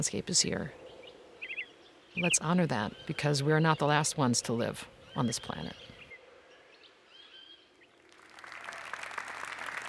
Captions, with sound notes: the soil is here, the landscape is here. (birds chirping) Let's honor that, because we're not the last ones to live on this planet. (applause)